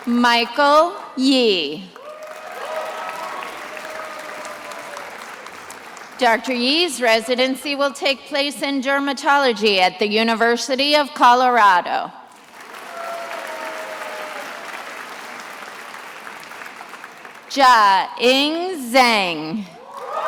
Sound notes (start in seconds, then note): 1.9 attendees applauding; 12.2 attendees applauding